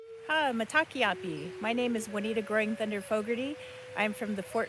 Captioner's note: non-english speech